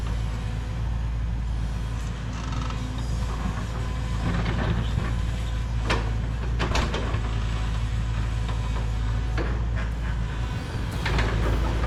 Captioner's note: motor whirring